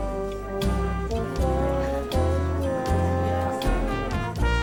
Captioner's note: bluesy trumpet music; diner sounds